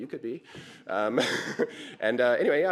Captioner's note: laughter